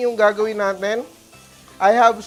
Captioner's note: sizzles